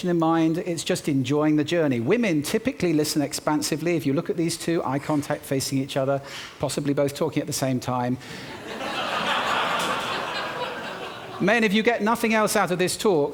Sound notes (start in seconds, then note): 8.5 laughter